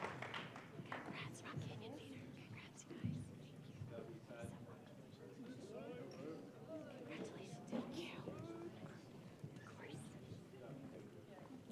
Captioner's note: applause